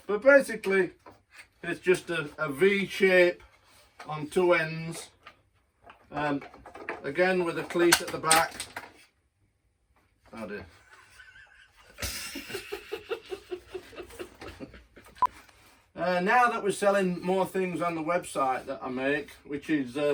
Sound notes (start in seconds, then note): 7.4 rolls clatters onto floor; 10.8 laugher